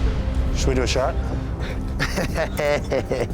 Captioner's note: laughter